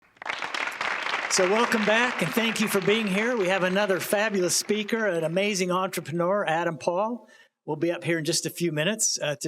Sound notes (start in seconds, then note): 0.0 applause